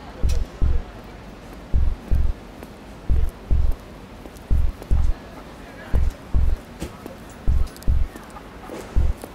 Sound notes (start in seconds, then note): 0.2 bass drum; 4.2 footsteps clicking